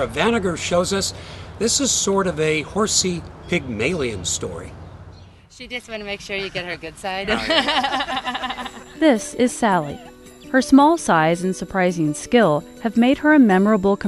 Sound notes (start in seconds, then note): 7.2 laughs